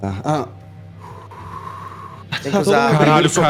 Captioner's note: sigh